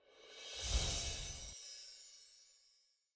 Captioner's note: chiming